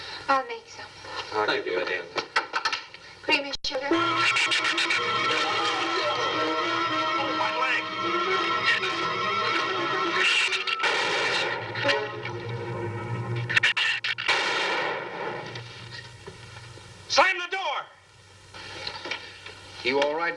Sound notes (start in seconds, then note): 4.1 shrew chattering; 9.6 gunshots